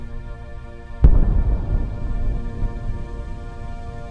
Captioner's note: explosion booming